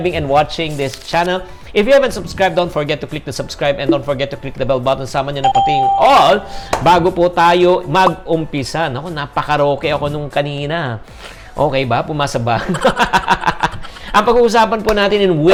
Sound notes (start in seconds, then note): 6.7 clap; 12.7 laughs